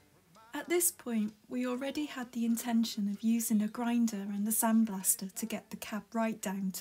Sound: voiceover

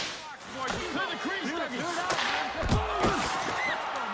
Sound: crowd cheers

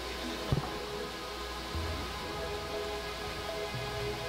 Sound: peaceful music; people chattering in background

